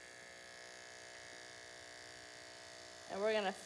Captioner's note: buzzing noises